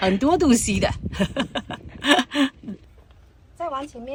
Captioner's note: laugh